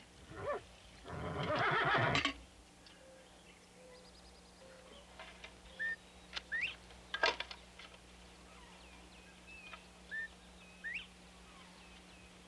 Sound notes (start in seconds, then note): 1.1 horse whinnying; 5.6 birds chirping